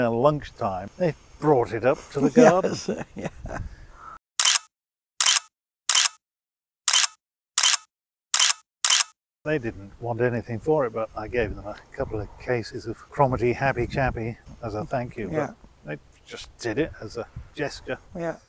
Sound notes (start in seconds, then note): 2.1 chuckling; 4.4 camera shutter clicks